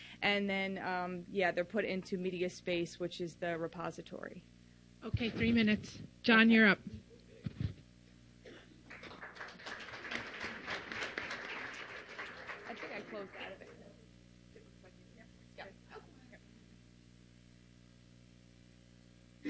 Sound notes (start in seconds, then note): 8.8 applause